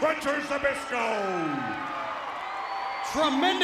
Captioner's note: audience applauds and cheers